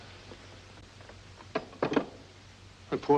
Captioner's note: phone sets down